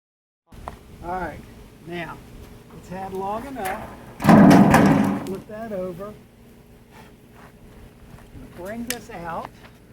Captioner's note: metal banging